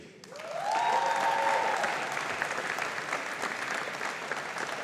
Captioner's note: audience applauding